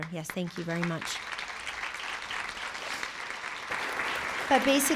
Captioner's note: applause